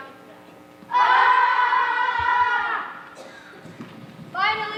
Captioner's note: warriors shout battle cries